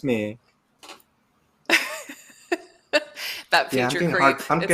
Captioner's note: laughs